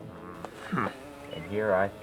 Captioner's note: grunts